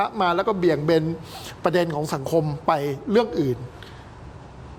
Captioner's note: breathing